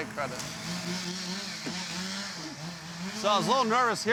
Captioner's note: chainsaw humming